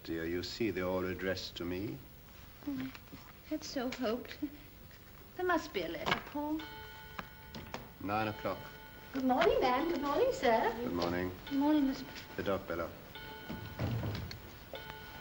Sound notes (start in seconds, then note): 7.0 clock chimes; 14.7 clock chimes